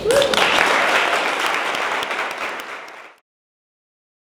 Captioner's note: audience applauding